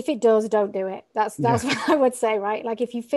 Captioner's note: laughing